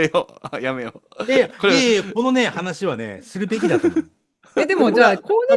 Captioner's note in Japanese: 笑い